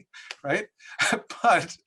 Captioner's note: laughs